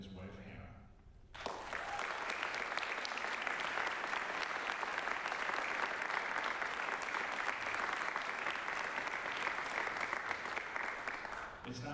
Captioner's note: applause